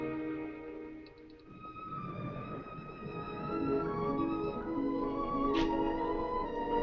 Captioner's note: melancholy music; waves crashing